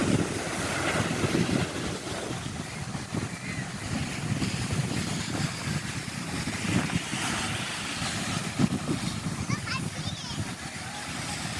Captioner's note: wind